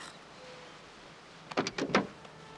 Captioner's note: car door opens